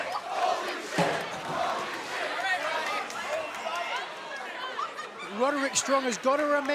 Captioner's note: fans chanting